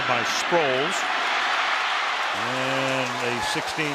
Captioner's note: cheering